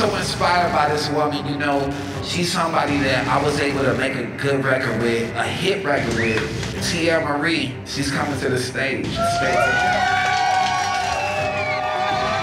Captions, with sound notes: I'm so inspired by this woman, you know. She's somebody that I was able to make a good record with. A hit record with, Teairra Mari, she's coming to the stage. (audience cheering)